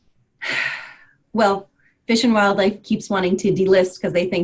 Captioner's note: sighs